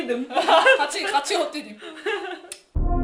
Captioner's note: laughs